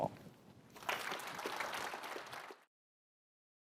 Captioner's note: applause